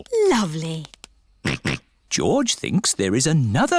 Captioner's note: snorts